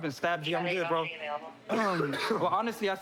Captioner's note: coughs